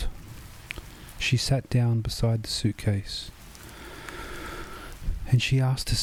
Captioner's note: inhale